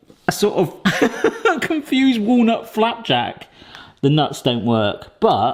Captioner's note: laughs